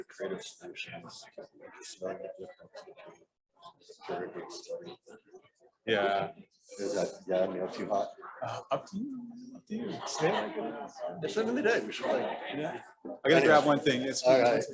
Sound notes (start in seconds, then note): 1.9 ambient talking, getting audience/panelists situated, describing logistics